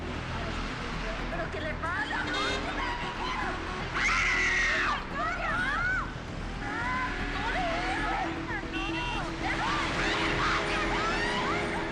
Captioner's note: screaming